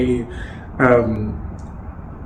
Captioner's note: laughs